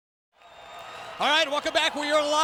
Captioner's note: audience cheers